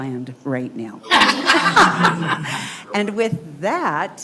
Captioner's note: members laughing